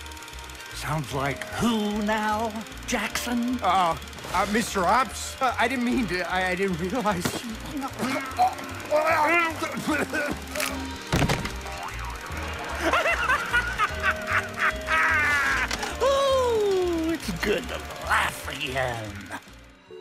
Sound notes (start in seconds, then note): 8.9 chokes; 10.5 cracks; 11.1 thud; 12.6 laughs hysterically